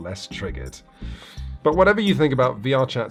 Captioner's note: man sighs